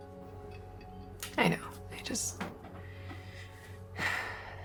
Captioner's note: sighs